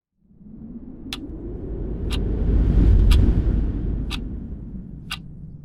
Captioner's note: ticking